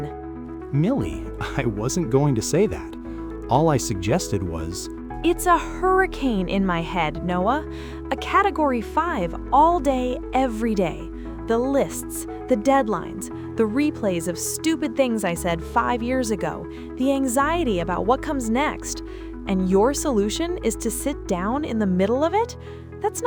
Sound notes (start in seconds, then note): 0.3 calmly; 5.3 interrupting, breathless